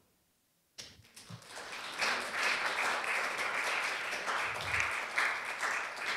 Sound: applause

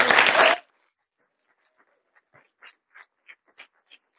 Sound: audience applauding

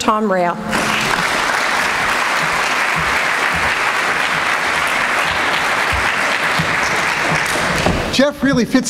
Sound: applause

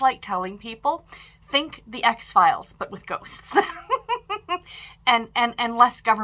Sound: laughs

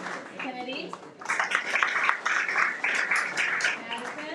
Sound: everyone applauds

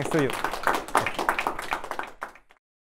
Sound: group clapping

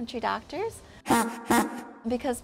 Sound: carriage honking

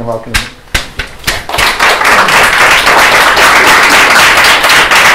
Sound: applause

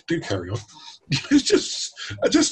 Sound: chuckles

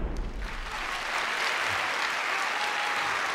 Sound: audience Clapping

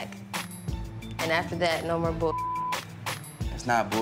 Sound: beep

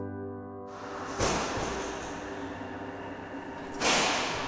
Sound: door slamming

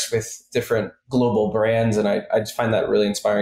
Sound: none

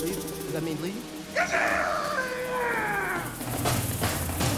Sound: exclaims

